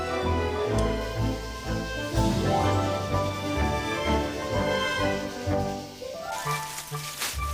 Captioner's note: sound of cooking rice